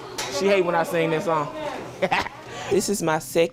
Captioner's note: laughs